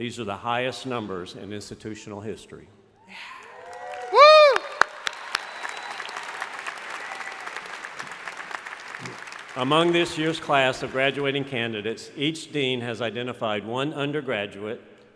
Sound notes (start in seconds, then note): 3.1 crowd cheering; 3.4 crowd applauding